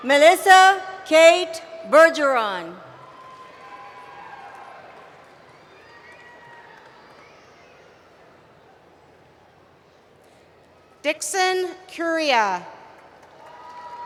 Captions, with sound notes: Melisa Kate Bergeron. [ Cheering ] Dickson Curia.